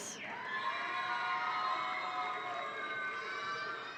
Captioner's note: audience cheering